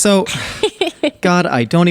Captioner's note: both laughing